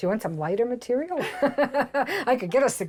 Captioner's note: laughing